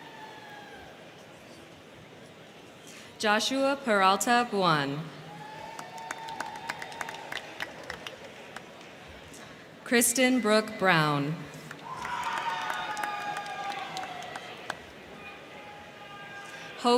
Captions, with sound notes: Joshua Paralta Braun. (crowd cheering) (crowd clapping) Kristen Brooke Brown. (crowd cheering) (crowd clapping)